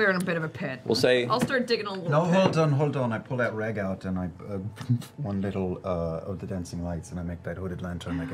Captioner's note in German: puff